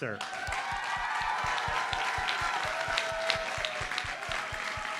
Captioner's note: audience cheers and applauds